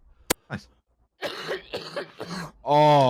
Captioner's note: coughing quite productively